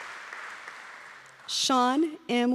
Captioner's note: applause